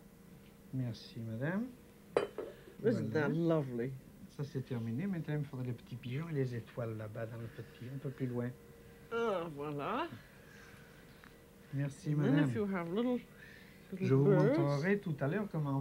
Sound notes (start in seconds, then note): 4.1 speaking French; 13.8 speaking French